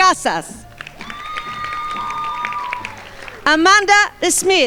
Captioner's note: crowd applauding